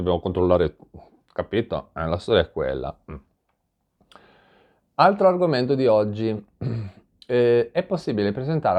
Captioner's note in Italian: schiarire la voce